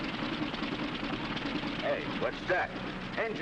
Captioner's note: engine rattling